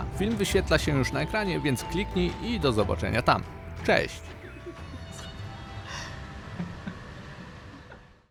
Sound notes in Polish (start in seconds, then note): 4.7 śmiech